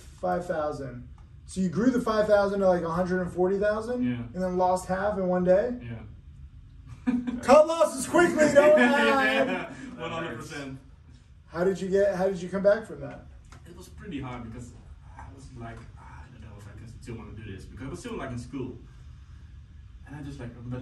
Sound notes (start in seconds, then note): 8.1 laughs; 10.9 laughs